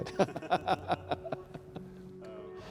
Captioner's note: laughs